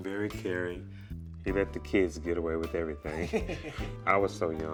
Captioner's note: laughs